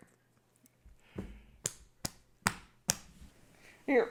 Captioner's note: back slapping